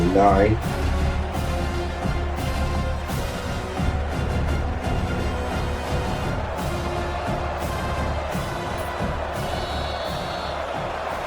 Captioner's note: crowd Noises